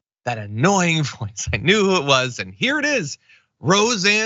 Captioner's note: laugh